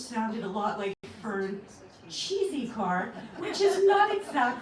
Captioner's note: laughter